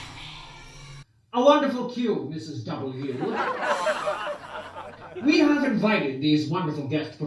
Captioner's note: laughter